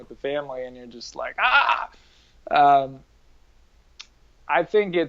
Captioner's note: mock yells